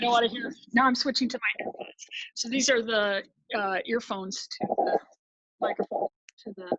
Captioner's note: static; static